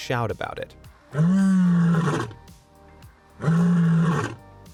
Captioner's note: lion growling